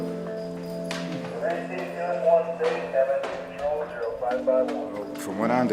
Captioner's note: intercoms broadcasting in background